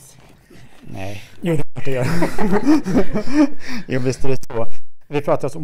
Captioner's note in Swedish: skratt